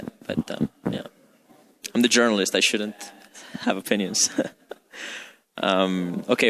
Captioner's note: laughs